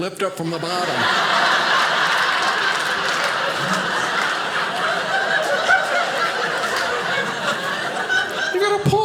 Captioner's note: audience laughing